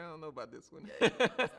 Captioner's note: chuckles